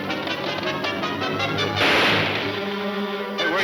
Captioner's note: gunshot banging